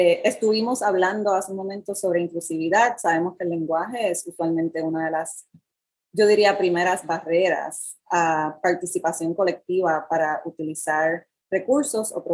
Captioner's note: speaking in Foreign Language